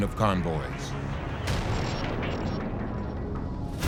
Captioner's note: boom